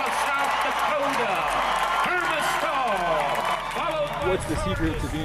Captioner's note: crowd applauding